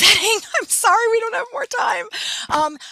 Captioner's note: laughing